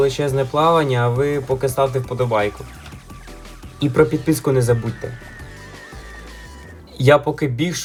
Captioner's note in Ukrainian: крик